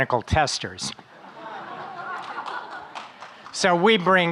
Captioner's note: audience laughing